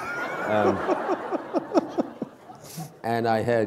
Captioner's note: laughter